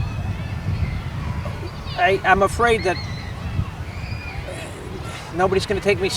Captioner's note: sigh